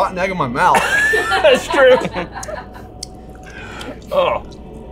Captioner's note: laughing